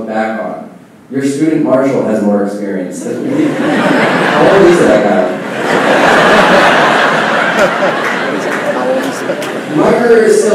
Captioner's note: laughing